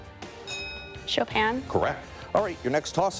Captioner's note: bell dings